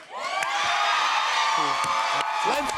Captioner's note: cheers and applause